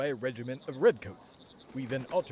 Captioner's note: horses gallop